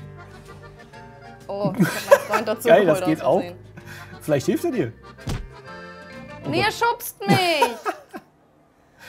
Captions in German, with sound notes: (Vergnügte Musik) Ich hab einen Freund dazugeholt. - Geil, das geht auch? Vielleicht hilft er dir. (Schlaggeräusch) Nee, er schubst mich!